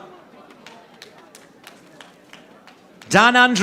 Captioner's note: audience applauding